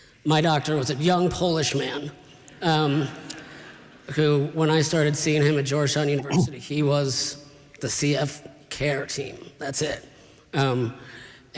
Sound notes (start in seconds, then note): 3.2 laughter